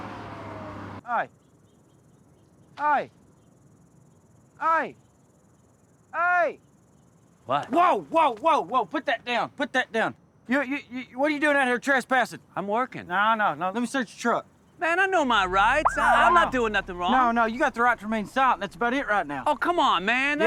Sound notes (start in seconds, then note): 15.4 police siren chirping